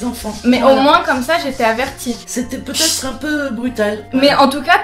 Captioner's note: hissing at cat